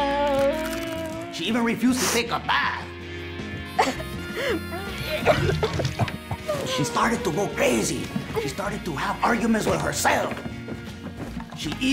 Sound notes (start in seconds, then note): 0.3 food crunches; 5.0 coughs and heaves